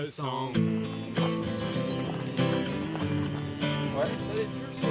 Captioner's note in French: ils fredonnent